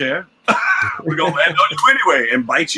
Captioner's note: laughs